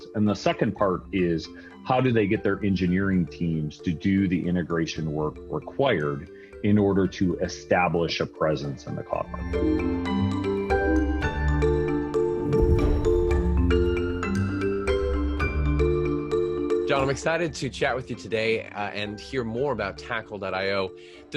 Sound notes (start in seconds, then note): 9.7 gentle upbeat music; 9.7 whooshing